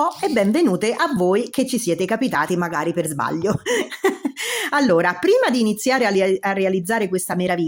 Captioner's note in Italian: risate; suono gutturale